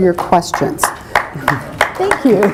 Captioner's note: applause